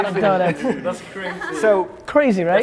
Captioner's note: laughs